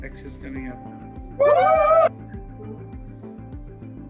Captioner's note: cheering